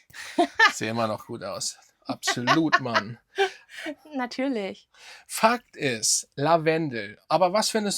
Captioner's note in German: gelächter